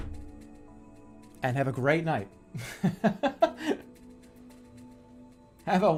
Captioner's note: laughing